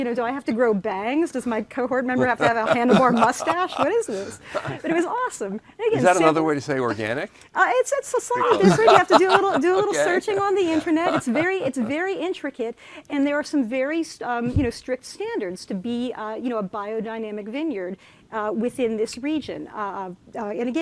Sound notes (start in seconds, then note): 2.2 laughing; 8.4 murmuring; 11.4 laughing